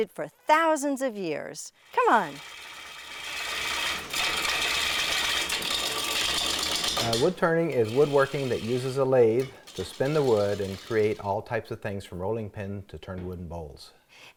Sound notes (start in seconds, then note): 1.8 lathe spinning and wood cutting